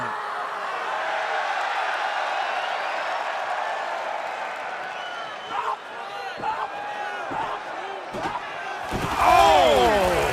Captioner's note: crowd cheering